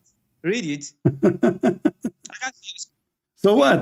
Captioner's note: Ketawa